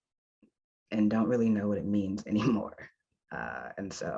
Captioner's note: chuckles